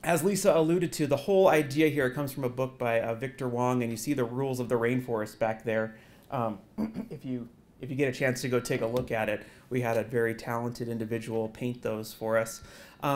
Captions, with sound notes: as Lisa alluded to, the whole idea here comes from a book by Victor Hwang. And you see the rules of the rainforest back there, [COUGH] if you get a chance to go take a look at it. We have a very talented individual paint those for us.